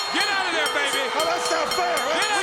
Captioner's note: bell ringing